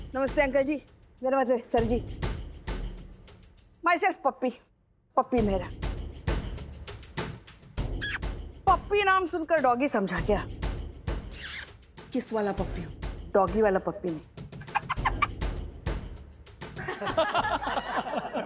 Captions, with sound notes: Greetings, uncle. I mean, Sir. Myself Pappi. Pappi Mehra. Did you think I'm a dog just because my name is Pappi? [smooches] This Pappi means a kiss. Not a dog. [smooches] [laughing]